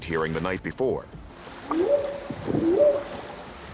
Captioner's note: whooping sound